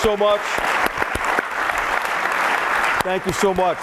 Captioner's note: applause